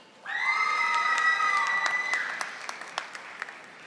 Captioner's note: audience applauding